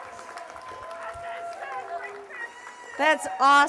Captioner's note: cheers and applause